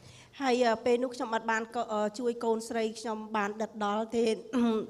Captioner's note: speaking foreign language